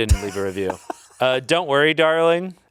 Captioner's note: laughs